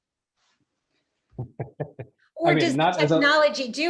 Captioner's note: laughs